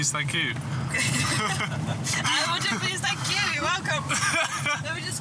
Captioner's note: laughter